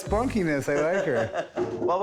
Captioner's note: laughs